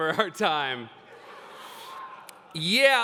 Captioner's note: laughter